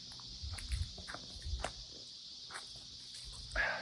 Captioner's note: cicadas chirping